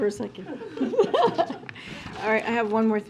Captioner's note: laughter